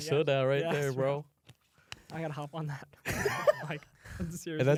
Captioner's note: laughs